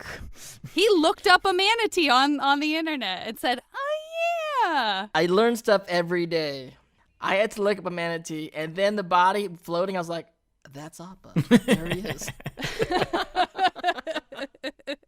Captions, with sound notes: He looked up a manatee on- on the internet and said, "Ah, yeah." I learn stuff every day. I had to look up a manatee and then the body floating. I was, like, "That's Oppa." [laughing] There he is. [everyone laughing]